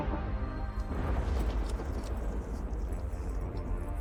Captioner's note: dreamy electronic music continues; more thunder in the distance